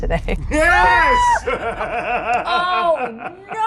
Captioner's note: laughs